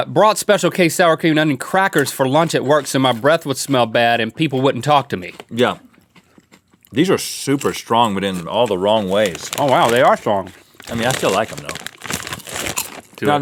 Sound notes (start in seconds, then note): none